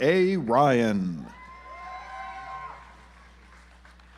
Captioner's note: audience applauds